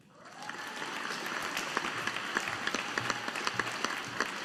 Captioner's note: audience applauding